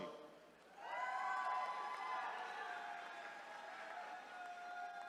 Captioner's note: attendees cheering